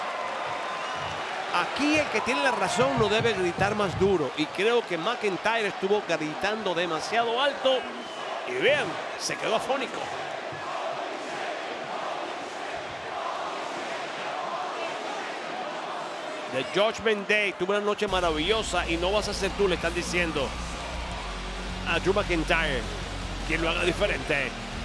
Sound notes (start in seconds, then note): 14.7 applause